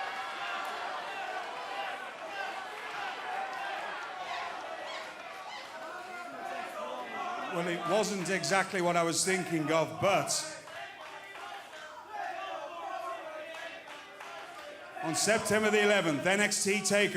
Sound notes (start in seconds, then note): 3.8 fans chanting